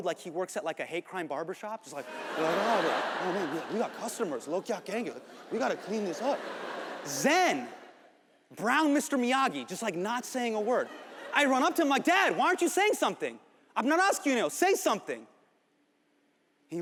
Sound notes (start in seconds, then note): 1.9 audience laughs